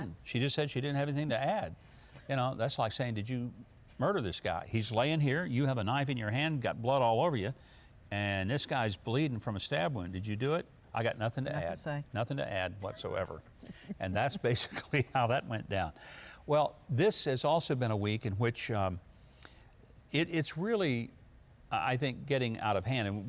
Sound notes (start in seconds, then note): 13.6 chuckling